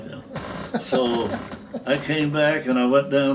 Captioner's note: laughing